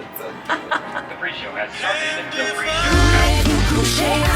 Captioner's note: speaking softly; upbeat music